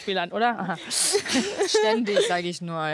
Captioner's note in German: Lachen